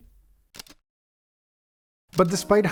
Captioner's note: camera shutter clicks